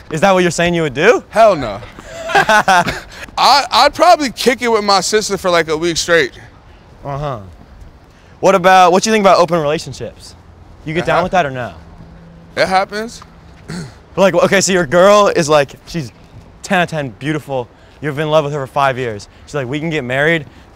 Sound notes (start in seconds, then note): 1.6 laughting